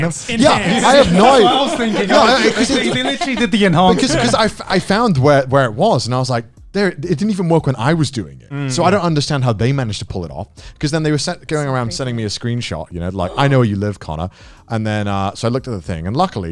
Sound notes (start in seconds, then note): 0.0 all laughing